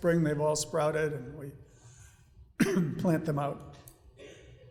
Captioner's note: coughs